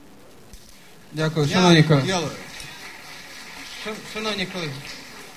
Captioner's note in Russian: аплодисменты